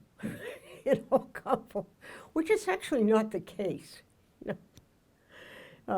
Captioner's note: laughs